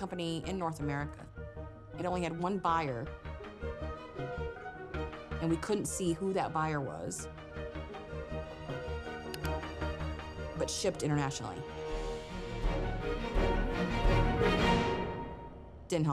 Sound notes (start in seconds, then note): 9.3 mouse clicking; 13.5 suspenseful music